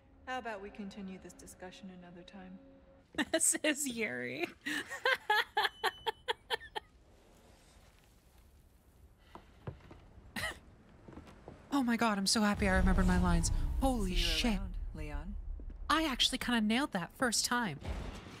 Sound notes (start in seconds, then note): 4.4 laughing; 10.3 quiet Laugh